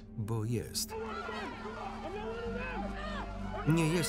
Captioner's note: angry mob shouting